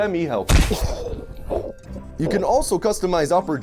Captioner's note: choking